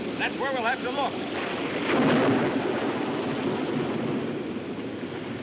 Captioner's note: thunder cracking